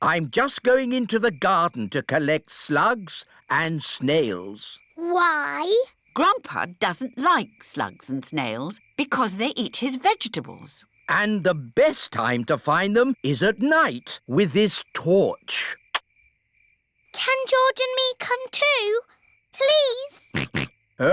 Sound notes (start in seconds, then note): 20.3 snorts